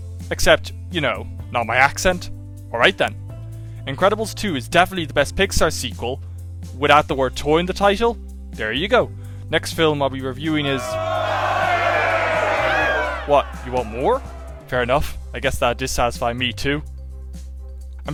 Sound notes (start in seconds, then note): 10.4 yells of dissent